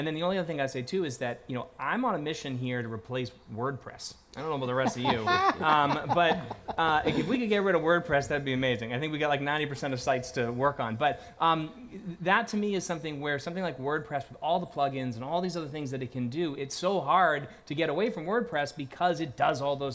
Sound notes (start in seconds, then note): 8.1 laughter